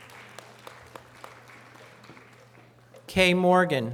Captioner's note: audience applause